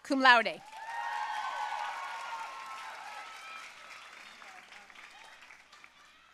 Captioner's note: audience cheering and applauding